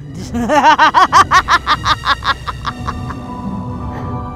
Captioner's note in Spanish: risa malvada